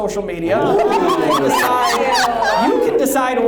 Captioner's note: everyone laughs